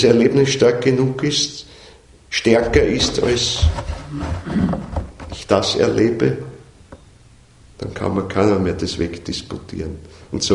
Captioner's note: knocks